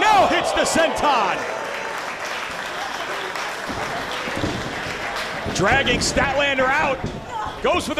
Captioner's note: applause